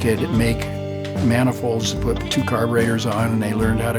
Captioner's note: pat